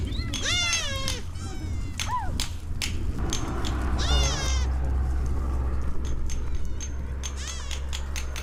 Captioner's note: sound of hammering from afar